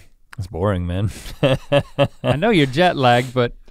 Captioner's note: chuckles